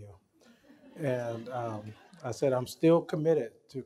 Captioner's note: laughter